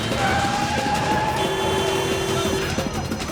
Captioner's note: tires squealing, horn honks